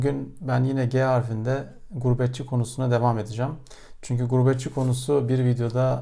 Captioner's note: Turkish